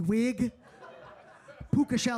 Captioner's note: audience laughing